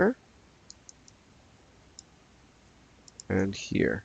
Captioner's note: mouse clicking